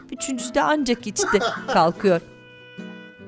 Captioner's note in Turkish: Gülme sesi